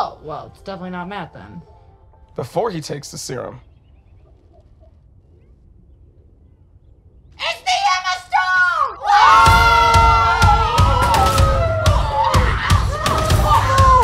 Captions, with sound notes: - Oh well it's definitely not Matt then. - "Before he takes the serum." - (screams) It's the Emma Stone! (group screaming)